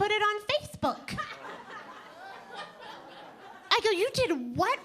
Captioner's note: audience laughing